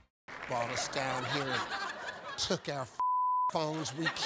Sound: beep

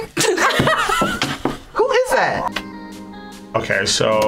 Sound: laughs

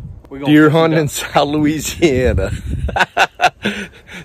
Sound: laughing

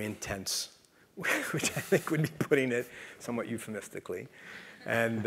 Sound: laugh

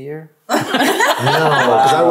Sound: laugh

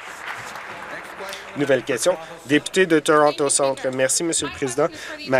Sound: applause

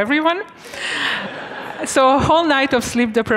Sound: students laughing

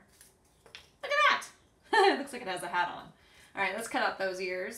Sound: chuckles

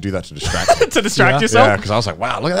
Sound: laughing

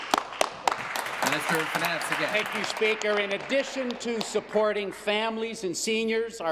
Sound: applause

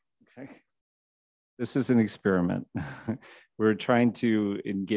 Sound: chuckles

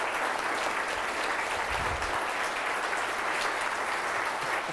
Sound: audience applause

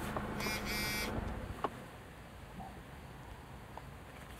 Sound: phone buzzing

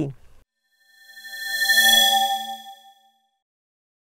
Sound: swoosh

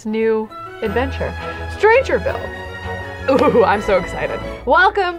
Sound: giggles

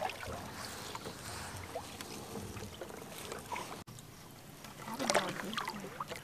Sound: paddling

